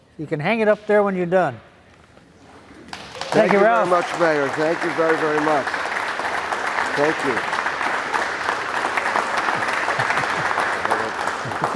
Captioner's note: applause